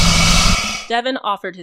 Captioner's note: crocodile sounds